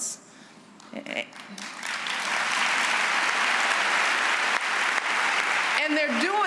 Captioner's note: applause